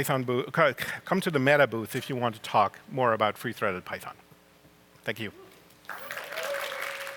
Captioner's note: applause